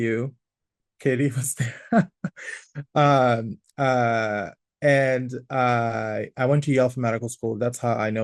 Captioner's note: laughs